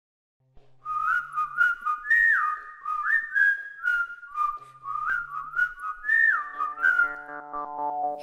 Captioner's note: whistling